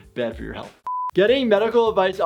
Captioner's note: high pitch beep